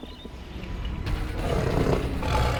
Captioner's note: birds chirp; lion growls